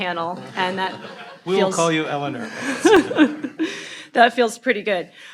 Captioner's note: audience laughing